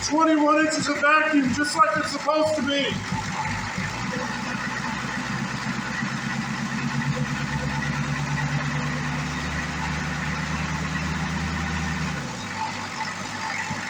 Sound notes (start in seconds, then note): 4.1 engine revs